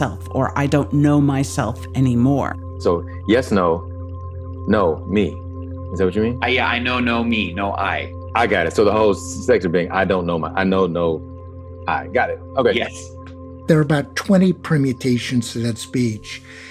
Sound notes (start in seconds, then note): none